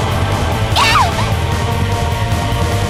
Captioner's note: screams